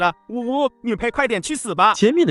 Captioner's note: sobs